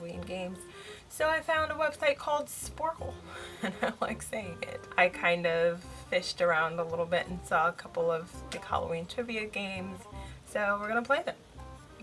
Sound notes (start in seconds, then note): 3.4 laughs